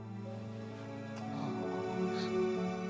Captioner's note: crying